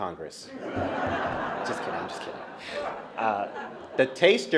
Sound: laughter

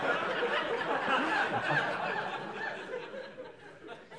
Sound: laughter

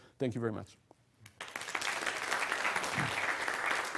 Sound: applause

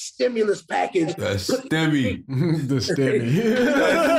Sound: chuckles

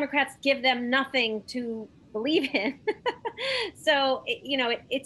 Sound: laughs

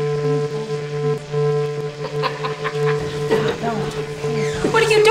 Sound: laughs

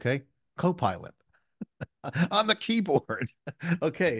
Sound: chuckles

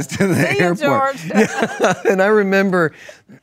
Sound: laughs

